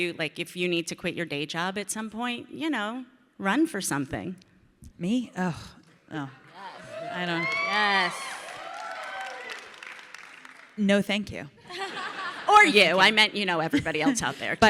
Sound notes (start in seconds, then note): 5.6 Ilana groans; 6.6 audience cheering; 11.7 audience laughs